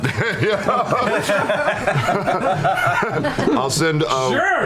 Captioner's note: laughter